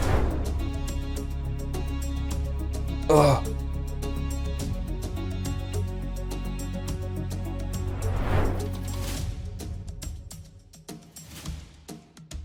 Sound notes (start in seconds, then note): 0.0 transition whooshing; 0.7 suspenseful music continues; 4.4 suspenseful music continues; 7.8 transition whooshing; 9.2 suspenseful music continues